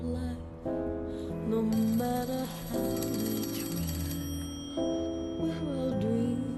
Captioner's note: phone ringing